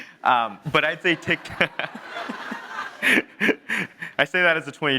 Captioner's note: audience laughing